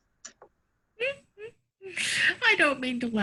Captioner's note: laughing